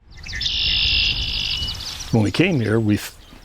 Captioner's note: birds chirping